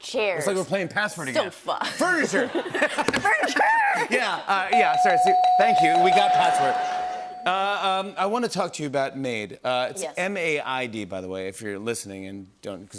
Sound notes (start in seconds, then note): 4.7 dinging